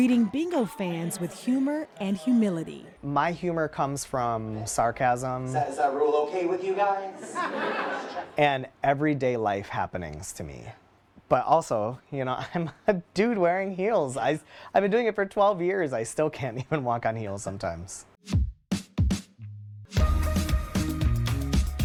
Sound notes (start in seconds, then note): 6.7 audience laughing; 20.0 lively techno music